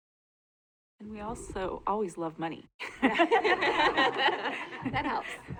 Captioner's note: laughter